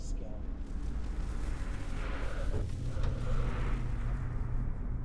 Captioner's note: haunting swishing